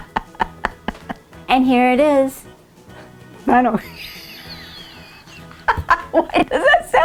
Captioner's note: laughing; laughing